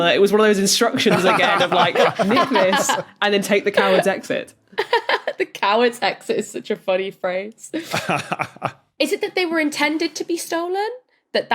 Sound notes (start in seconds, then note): 3.7 laughs; 7.8 chuckles